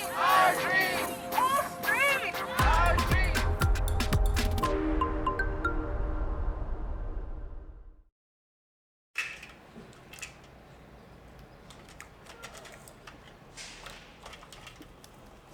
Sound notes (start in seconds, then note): 0.0 crowd